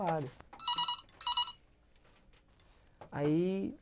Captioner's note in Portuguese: Telefone toca